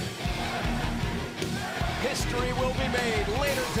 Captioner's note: crowd cheering